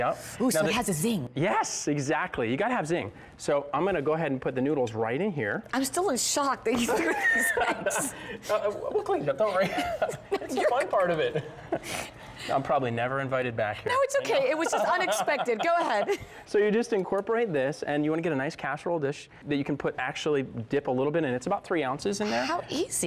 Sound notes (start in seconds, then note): 6.8 laughter